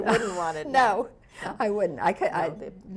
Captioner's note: laughs